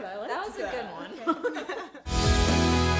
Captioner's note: laughing; uplifting music